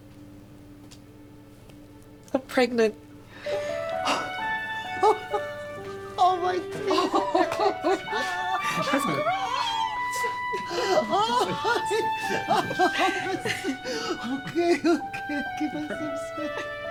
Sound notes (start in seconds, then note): 3.6 Evelyn laughing; 3.6 cheerful music; 10.6 Evelyn laughing